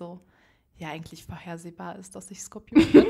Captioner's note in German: Beide lachen